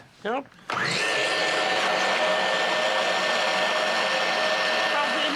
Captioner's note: whirring